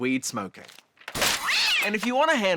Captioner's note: papers clatter; cat screeches